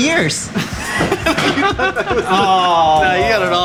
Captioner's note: laughing